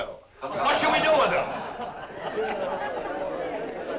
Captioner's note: laughter